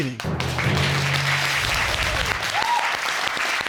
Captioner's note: applause